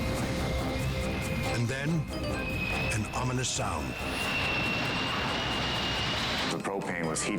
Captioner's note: whistling resonates